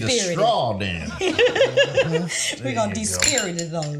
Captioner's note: both laughing